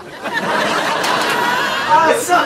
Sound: audience laughs

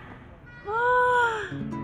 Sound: sigh

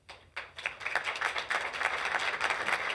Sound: applause

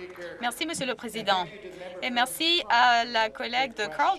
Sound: some Applause

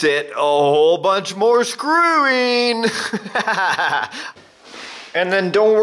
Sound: laughs maniacally

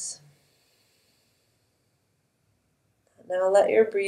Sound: instructor exhales slowly

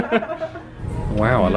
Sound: all laughing

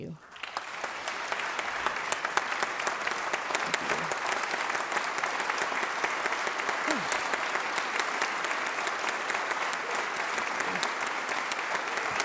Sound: applause

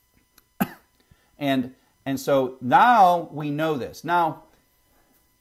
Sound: cough

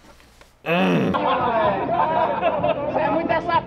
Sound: grunting; door creaking

